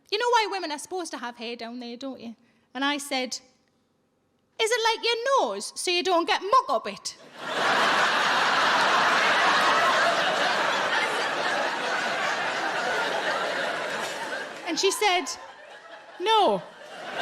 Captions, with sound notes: "You know why women are supposed to have hair down there don't you?" And I said, "Is it like your nose, so you don't get muck up it?" (audience laughing) And she said, "No."